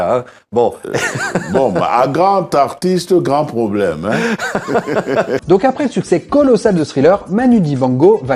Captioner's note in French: rires